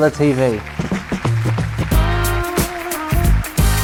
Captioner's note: applause